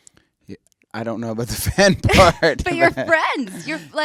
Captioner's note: laughs